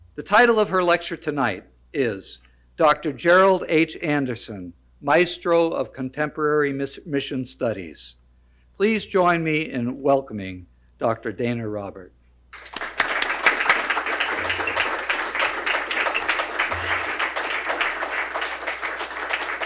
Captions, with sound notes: The title of her lecture tonight is "Dr. Gerald H. Anderson, Maestro of Contemporary Mission Studies." Please join me in welcoming Dr. Dana Robert. (audience applauds)